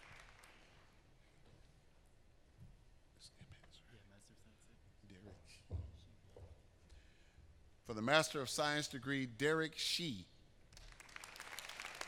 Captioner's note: applause